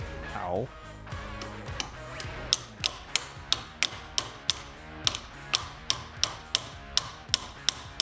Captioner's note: hammering